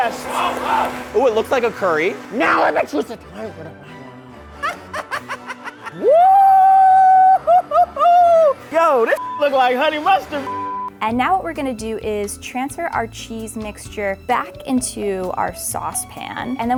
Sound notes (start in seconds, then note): 3.2 speaking morphs to angry Gibberish; 5.1 maniacal laughter; 10.4 beep